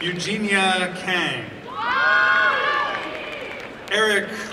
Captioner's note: applause and cheering